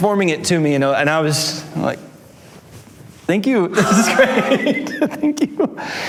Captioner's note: laughs